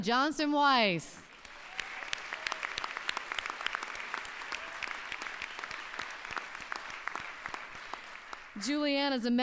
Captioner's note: applause